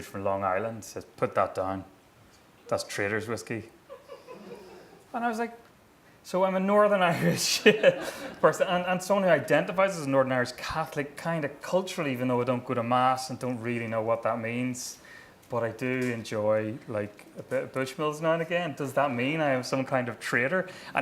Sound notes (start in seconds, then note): 3.9 laughing